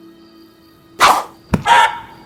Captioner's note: slashing sounds start